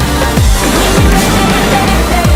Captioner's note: explosion